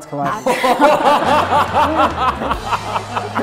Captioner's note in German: Herzliches Lachen